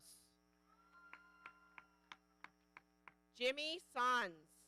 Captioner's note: audience cheering